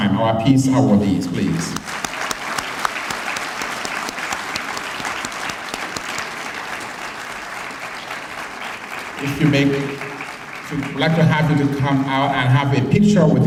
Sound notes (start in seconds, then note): 1.5 applause